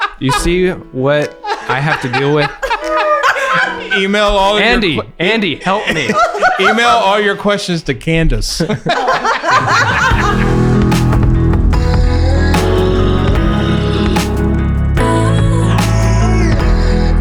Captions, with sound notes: - You see what I have to deal with. Andy, Andy, help me. - Email all your questions to Candice. (laughs) (upbeat music)